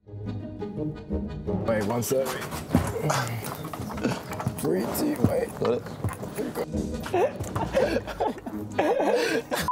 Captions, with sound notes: (busy music) Alright, one sec. Three, two, one. - Got it? (laughs)